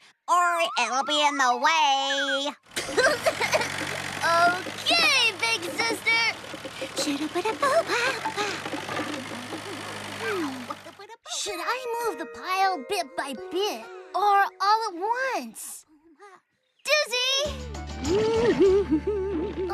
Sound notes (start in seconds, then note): 0.3 silly Voice; 2.8 giggles; 6.6 humming; 18.0 humming